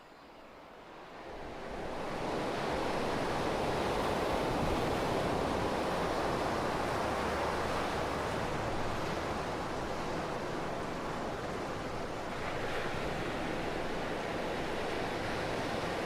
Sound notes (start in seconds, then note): 1.3 ocean waves